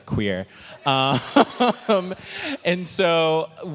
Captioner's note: laughing